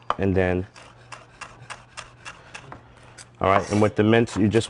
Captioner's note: sound of knife cutting the pepper